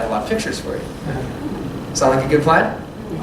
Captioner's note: laughter